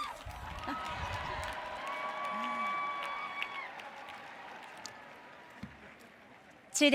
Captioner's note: audience cheers; applauds